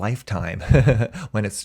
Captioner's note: chuckles